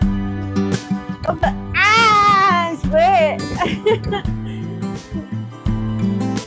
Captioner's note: laughter; laughter